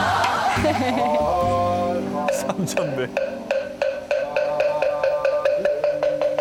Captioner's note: laughs